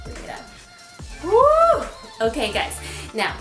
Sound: exclaims

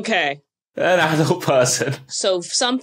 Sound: laughs

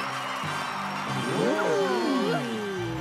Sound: cheering

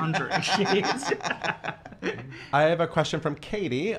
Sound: both laughing

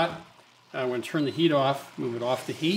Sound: button beeps

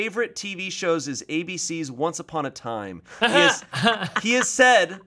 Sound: laughing

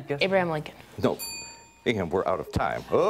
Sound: dings

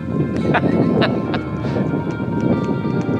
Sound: laughing

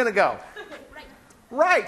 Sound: laughing

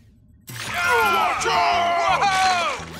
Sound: screaming

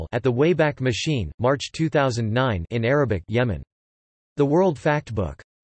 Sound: in Arabic; in Arabic

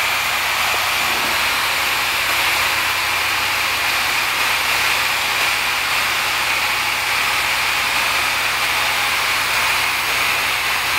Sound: air blowing

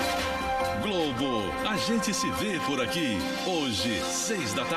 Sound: man speaking portuguese

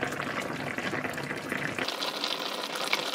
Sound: boiling

